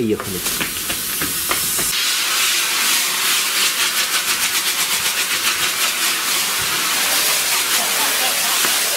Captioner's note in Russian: шепение; тихий смех